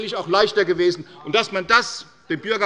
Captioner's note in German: Zurufe von der SPD